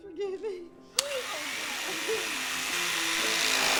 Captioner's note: knife whirring on